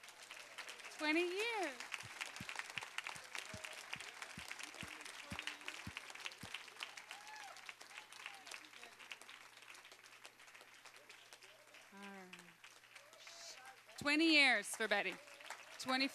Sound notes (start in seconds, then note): 0.1 applause